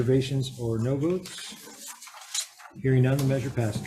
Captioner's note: papers rustling